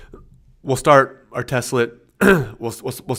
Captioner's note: clears throat